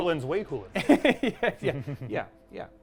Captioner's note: chuckles